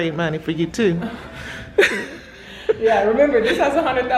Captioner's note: laughs